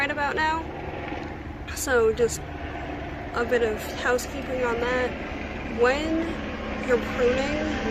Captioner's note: helicopter sounds begin